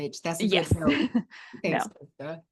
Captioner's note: chuckles